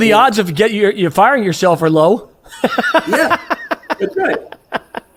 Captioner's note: laughs